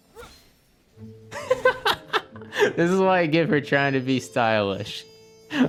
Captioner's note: laughs